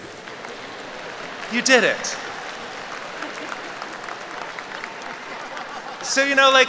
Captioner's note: applause